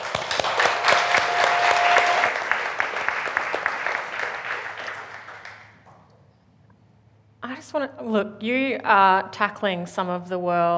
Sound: applause

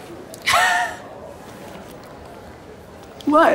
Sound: laughs

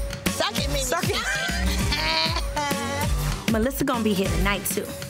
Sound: laughing

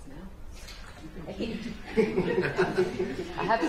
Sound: laughter

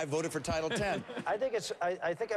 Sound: laughter

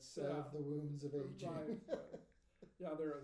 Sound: laughing

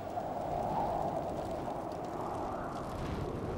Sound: wind blows

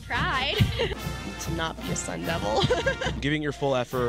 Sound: laughter

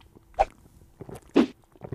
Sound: cola can opening sound; woosh

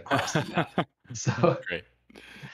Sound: laughter

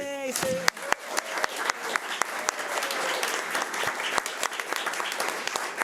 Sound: audience applauds

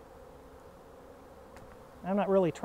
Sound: bees buzzing

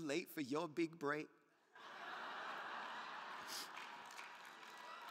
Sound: crowd laughing

